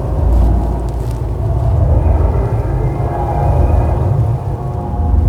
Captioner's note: power pulsing